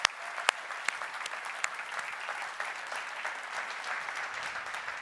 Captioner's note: applause